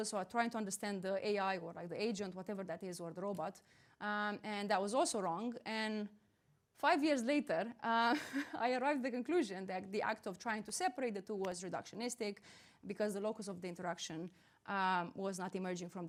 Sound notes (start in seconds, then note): 8.1 chuckling